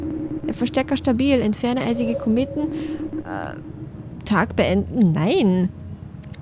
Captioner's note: weird talking, cause I dont know how to continue the game